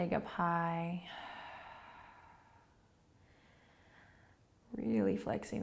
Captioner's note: breathing